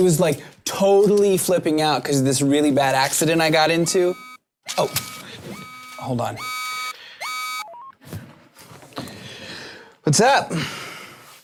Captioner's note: phone buzzes